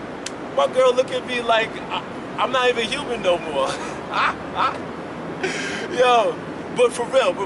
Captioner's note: laughs